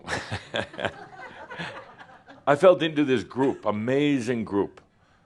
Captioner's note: some laughter, chuckles